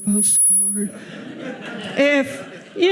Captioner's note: audience laughing